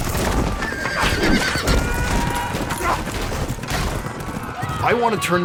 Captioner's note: horse whinnying, cries and shouts